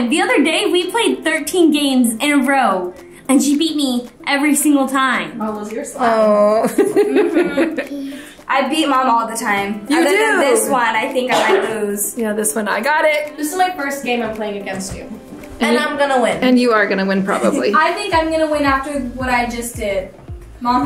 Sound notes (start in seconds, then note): 17.4 laughs